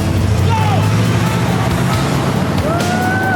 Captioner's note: engine revs